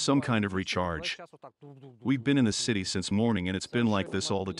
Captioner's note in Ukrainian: імітує звуки артилерійських ударів